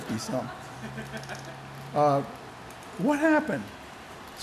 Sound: laughter

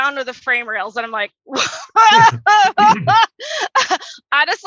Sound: laughs

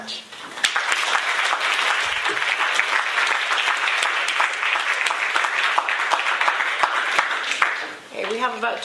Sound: applause

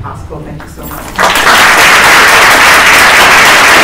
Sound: applause

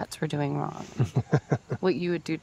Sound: Gary chuckles

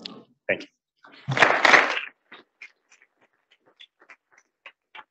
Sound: audience applauding

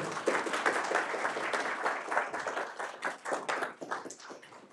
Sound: audience applauding

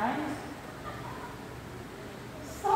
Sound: laughing

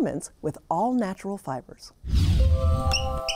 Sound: air rumbles; calm music; wheel squeaks

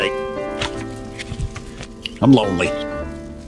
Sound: paper rustles

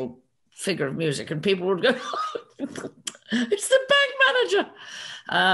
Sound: laughs

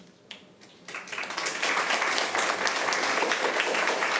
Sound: applause

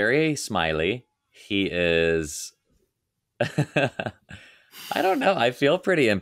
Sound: laughing

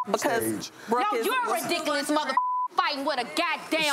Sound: beep; beep

